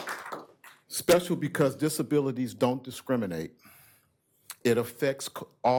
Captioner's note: applause